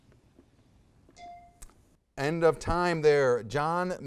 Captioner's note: timer dings